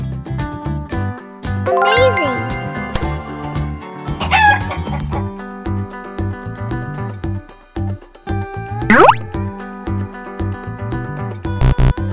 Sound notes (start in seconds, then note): 4.2 chicken sound